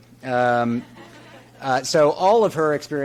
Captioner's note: audience chuckles